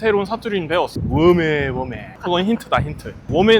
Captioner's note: using dialect